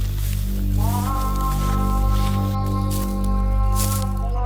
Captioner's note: grass crunching